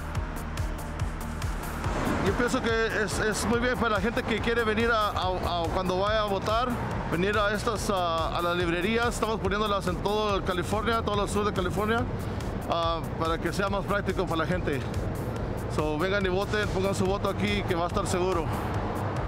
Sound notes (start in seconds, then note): 1.9 Spanish